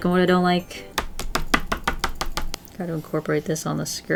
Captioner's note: pen tapping on Sketchbook